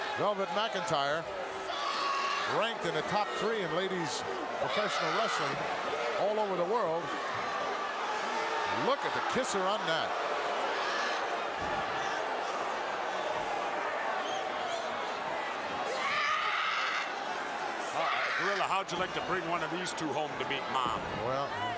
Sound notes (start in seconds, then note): 11.2 crowd cheering; 16.0 Nakano screams